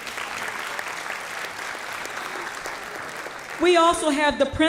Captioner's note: applause